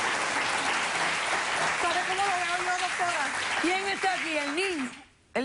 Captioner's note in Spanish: aplausos